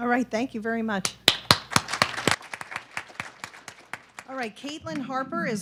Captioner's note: audience clapping